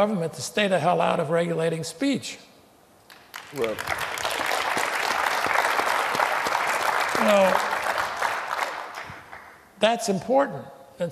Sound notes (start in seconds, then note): 1.4 applause